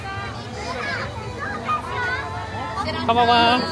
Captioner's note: people speaking Japanese